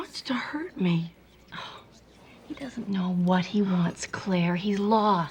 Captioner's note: scoffs